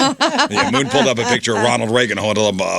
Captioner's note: laughing